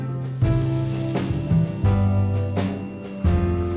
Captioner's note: sizzling; smooth music